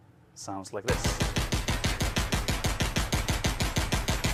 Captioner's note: gunshots